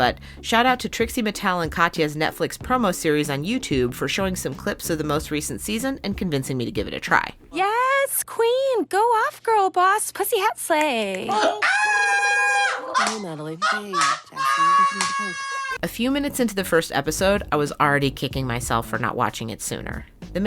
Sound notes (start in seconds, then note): 11.3 screams; 14.8 laughs